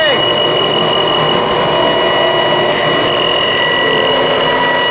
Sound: machinery whirring

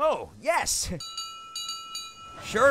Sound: toby rings bell

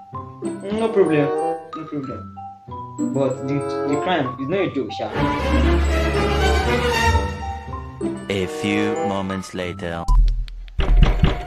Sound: door knocking

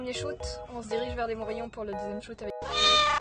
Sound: meow

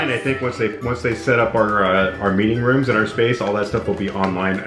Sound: none

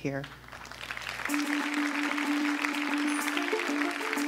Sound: applause

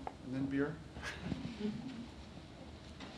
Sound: laughter

